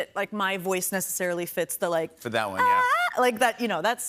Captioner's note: vocalizes